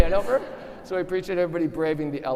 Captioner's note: audience laughing